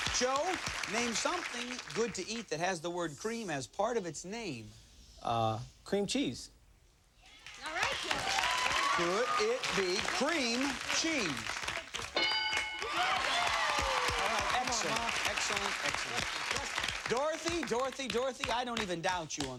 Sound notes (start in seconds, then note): 12.8 cheers and applause